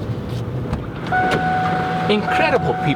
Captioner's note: car beeping